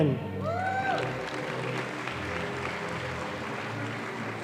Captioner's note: audience applauding